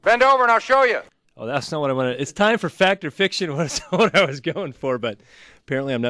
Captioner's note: laughs